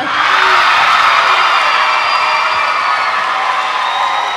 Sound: crowd cheering

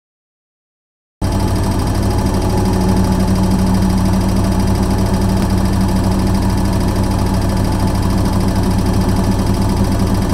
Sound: sound of washing machine

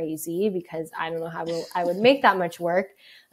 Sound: laughs

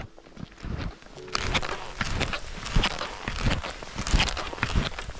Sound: natural sounds

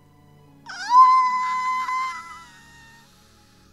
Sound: happy squeal

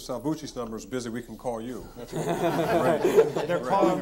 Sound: all laughing

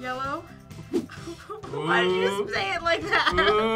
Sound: laughs

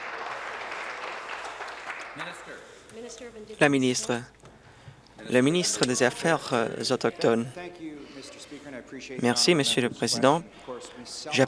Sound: some Applause

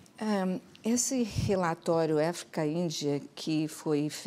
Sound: speaking portuguese

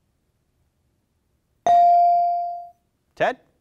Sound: bell dings

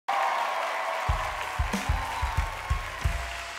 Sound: crowd Cheering

